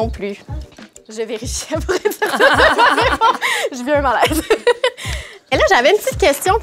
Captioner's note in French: rires